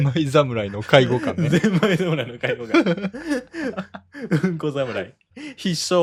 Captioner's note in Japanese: 笑い